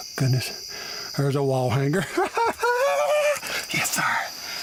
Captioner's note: laughing